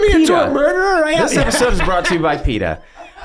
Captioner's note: laughs